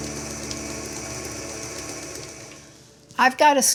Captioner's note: mixer whirring